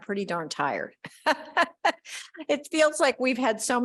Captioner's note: laughing